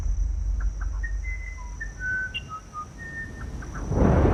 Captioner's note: soft whistling; thunder rumbling